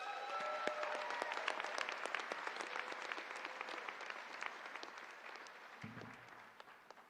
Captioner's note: applause